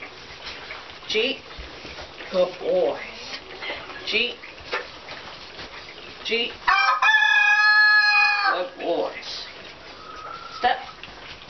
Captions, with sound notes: Gee. Good boys. Gee. Gee. (crowing) Good boys. Step.